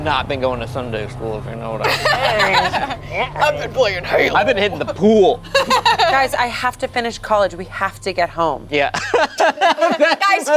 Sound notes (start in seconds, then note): 1.8 laughs; 5.4 laughs; 8.9 laughs